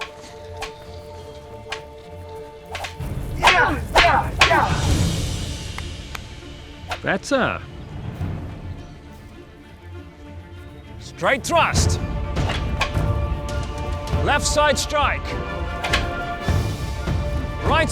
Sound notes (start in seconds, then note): 3.4 grunting; 5.7 Ben-Hur claps